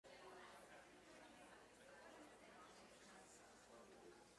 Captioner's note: audience murmurs